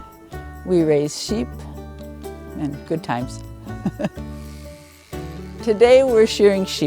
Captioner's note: laughing